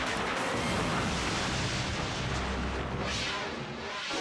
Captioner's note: explodes